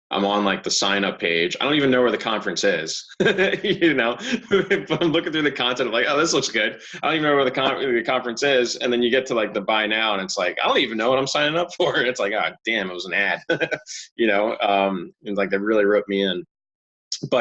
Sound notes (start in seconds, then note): 2.9 chuckling